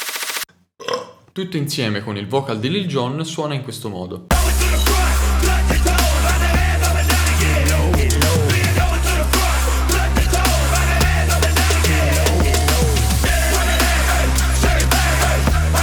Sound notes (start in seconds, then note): 0.8 burp